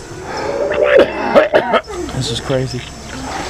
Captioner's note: people retching